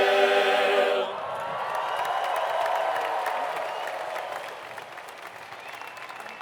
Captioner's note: audience cheering and applauding